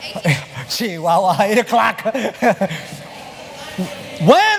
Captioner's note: spanish